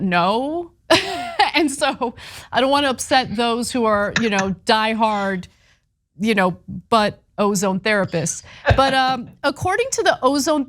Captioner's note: laugh